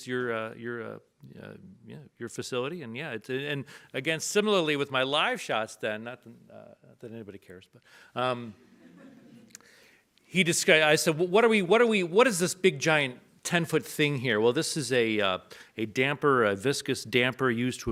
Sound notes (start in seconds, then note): 8.7 audience laughs